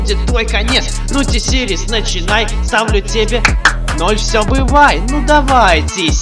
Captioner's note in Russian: хлоп